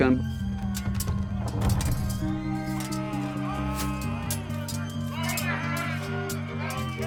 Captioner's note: metal clinking; soldiers yelling